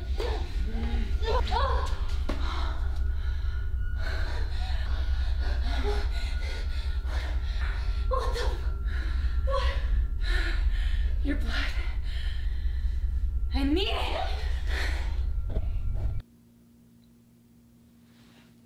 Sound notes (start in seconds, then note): 3.3 gasping